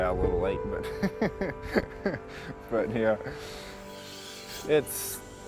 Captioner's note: laughing